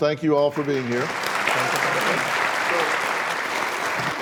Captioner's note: applause